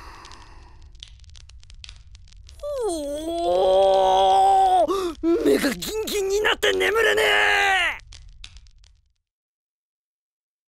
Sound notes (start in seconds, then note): 2.6 wooooooooah!